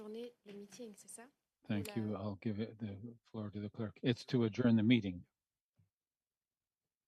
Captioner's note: speaking French